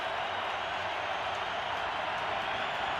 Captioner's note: crowd cheering